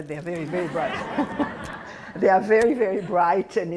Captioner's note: laughter